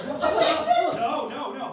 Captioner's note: yells